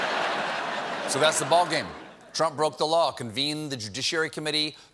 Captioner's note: laughter